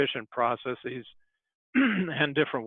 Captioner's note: clears throat